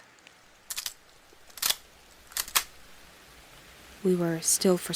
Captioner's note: sound of gun being reloaded